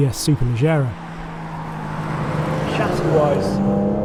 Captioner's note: car humming